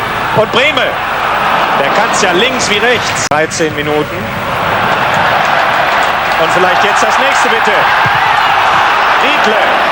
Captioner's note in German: jubel